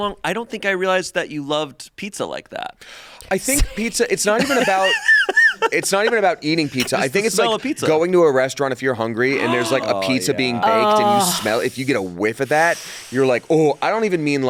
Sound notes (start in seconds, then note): 4.3 laughing; 4.3 laughs